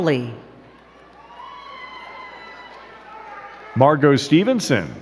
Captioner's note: crowd cheering and clapping